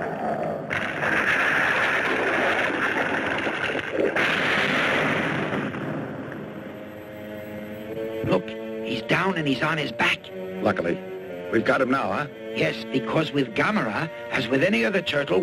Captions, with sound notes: (Gammera thuds) - Look, he's down and he's on his back. - Luckily we've got him now, huh? - Yes, because with Gammera, as with any other turtle,